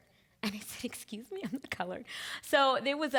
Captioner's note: chuckling